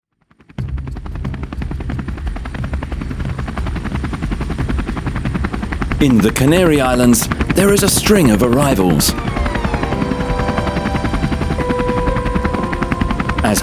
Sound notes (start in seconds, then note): 0.9 helicopter blades chuff; 10.2 gentle music